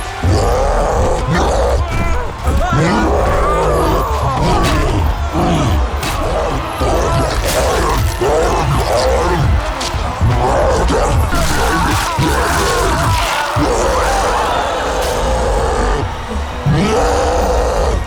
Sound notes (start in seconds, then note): 7.0 munching; 10.6 slave screams; 14.2 crowd exclaims; 16.5 roars